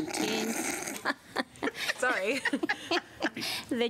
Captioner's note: laughter